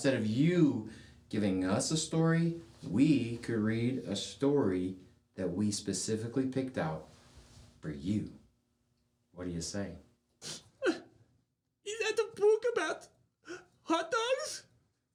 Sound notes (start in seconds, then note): 10.8 crying